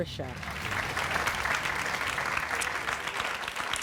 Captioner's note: applause